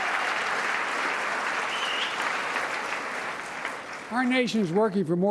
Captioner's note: applause